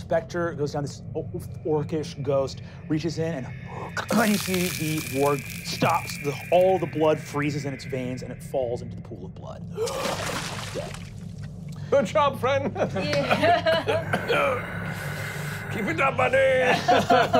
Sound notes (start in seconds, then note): 4.0 crunching; 9.8 splashing; 12.8 laughing; 14.1 whispered moaning; 16.5 laughing